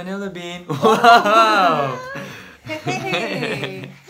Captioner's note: laughs